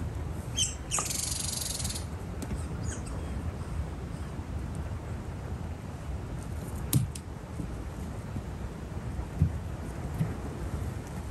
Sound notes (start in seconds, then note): 0.5 more chirping of the squirrel; 7.4 sound of hoofs stepping on the ground